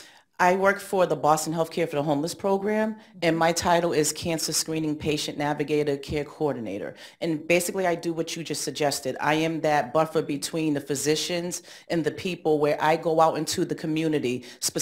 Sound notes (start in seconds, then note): none